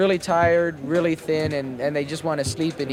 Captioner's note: archival news audio